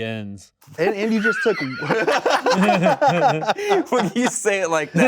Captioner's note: laughs